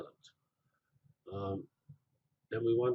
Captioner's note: pause